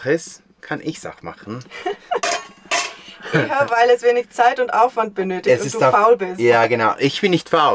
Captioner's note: laughter